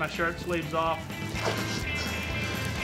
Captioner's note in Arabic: تمزيق، طقطقة النار